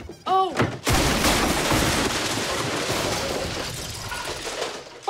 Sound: crashing

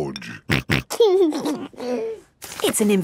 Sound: snorting and giggling

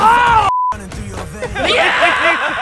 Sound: test tone; laughter

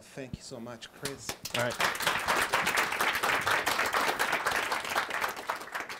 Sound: audience clapping

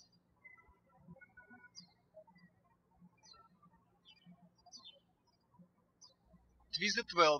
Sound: birds chirping

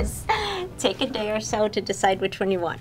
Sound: Eleanor laughs

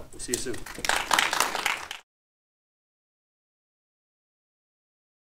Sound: audience applauding

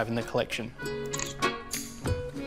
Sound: camera clicks

